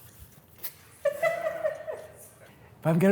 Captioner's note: laughs